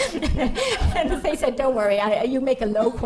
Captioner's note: laughing